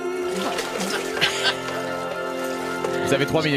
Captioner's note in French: rires